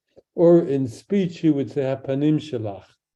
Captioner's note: speaks in Hebrew